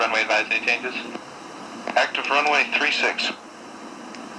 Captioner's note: voiceover